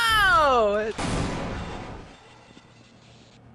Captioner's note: explosion